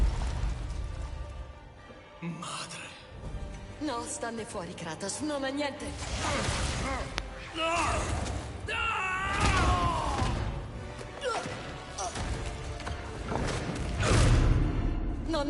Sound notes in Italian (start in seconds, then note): 8.6 urlo; 11.3 gemito